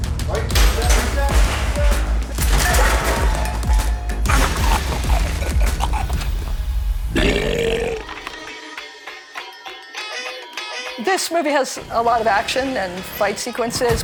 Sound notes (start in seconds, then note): 6.9 belches